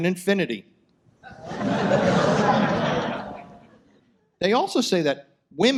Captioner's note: audience laughs